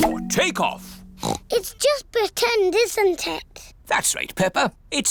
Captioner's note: oinks